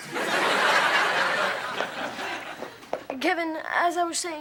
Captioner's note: audience laughing